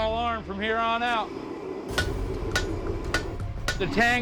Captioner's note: hammering